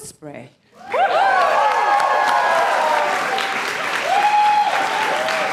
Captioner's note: applause